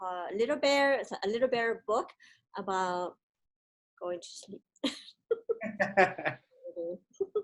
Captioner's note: laughs